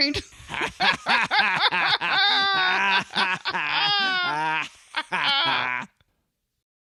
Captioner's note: obnoxious laughter